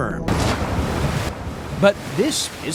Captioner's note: water crashing